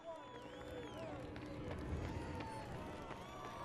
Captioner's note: cheering